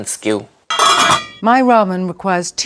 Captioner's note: lid clanking